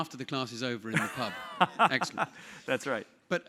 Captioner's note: laugh